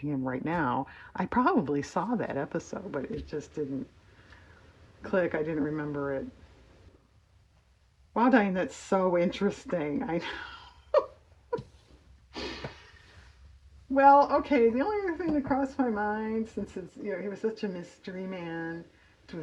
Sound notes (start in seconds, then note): 10.2 laughs